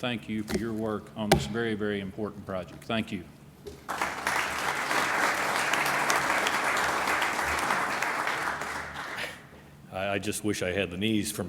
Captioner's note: applause